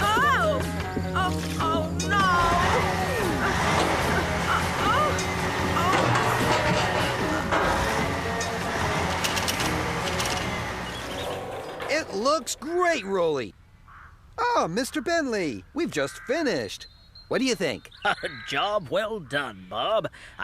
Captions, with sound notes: OH! OH! OH, NO! UH, UH... UH-OH! ( Metal Clanging ) IT LOOKS GREAT, ROLEY! AH, MR. BENTLEY! WE'VE JUST FINISHED! WHAT DO YOU THINK? A JOB WELL DONE, BOB.